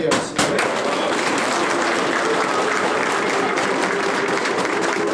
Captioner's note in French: Applaudissements